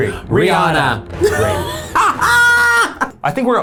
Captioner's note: laughs